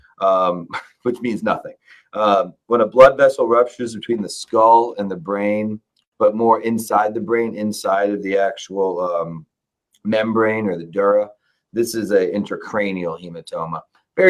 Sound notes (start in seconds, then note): 0.6 laughs